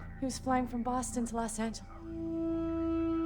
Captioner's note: chokes up